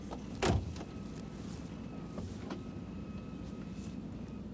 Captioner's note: car doors thudding